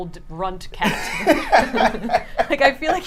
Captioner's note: laughs